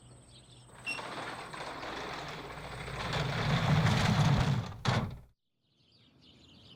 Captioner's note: garage door rustles